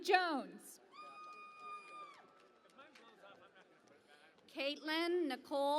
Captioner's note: cheering and Applause